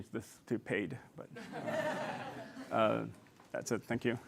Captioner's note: laughter